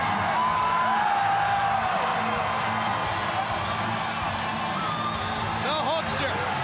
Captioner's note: crowd cheering